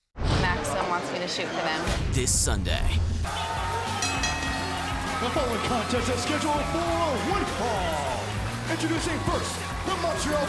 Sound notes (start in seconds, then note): 4.9 crowd cheering; 5.8 bell ringing